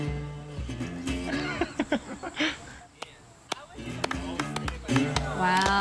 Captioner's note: scattered applause; laughter